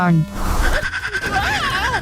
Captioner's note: fourse screeching